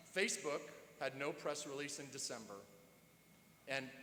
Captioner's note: none